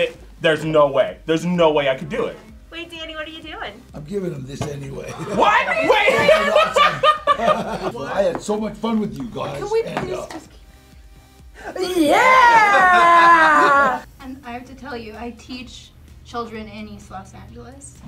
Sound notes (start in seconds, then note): 5.1 all laugh; 11.5 men laugh